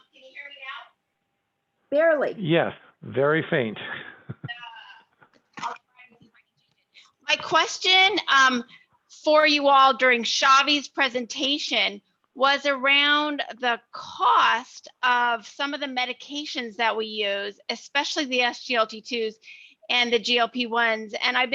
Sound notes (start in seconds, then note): 3.6 laughs